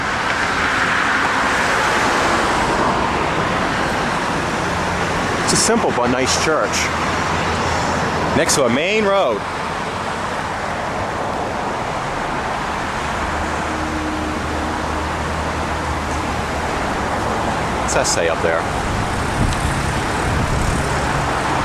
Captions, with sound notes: (Loud Traffic Noises) It's a simple but nice church. (Shouting) Next to a main road! What's that say up there? (Wind & Traffic Noises)